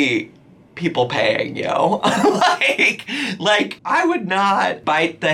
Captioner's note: laughs